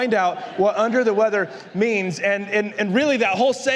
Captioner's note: la congregación se ríe